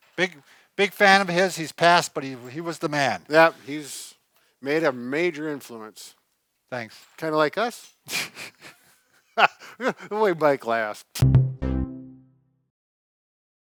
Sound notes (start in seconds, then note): 9.3 laughs; 11.2 upbeat music